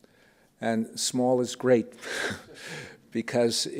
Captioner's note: chuckles